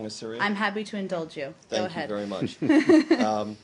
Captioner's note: laughter